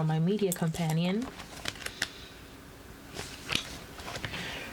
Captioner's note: paper rustling